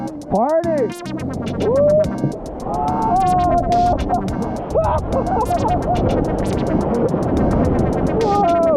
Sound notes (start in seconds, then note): 2.0 laughing